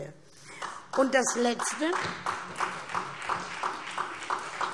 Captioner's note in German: Beifall SPD